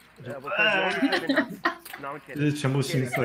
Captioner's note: vomits